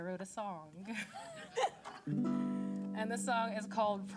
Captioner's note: laughter